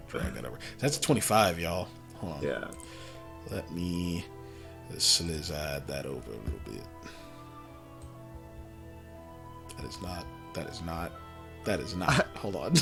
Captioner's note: laughs